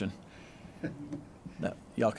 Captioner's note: laughter